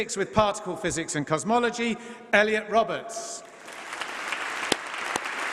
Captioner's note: applause